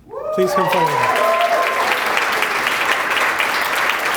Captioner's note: applause